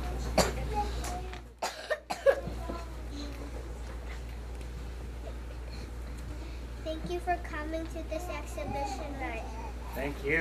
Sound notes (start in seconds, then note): 1.6 coughs